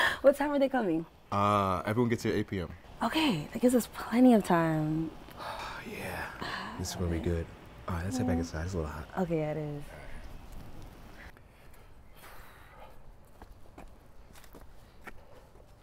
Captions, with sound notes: - What time are they coming? - Everyone gets here at 8PM. - Okay. They gives us plenty of time. - Yeah. This is going to be good. All let's head back inside, it's a little hot. - Okay. It is. (exhaling)